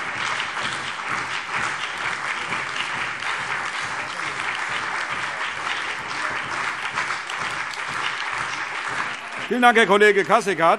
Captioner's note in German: Beifall CDU, BÜNDNIS 90/DIE GRÜNEN, SPD, DIE LINKE und Freie Demokraten